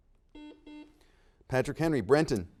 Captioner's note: buzzer dings